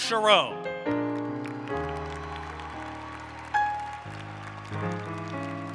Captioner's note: applause